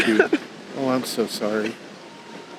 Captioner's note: sobbing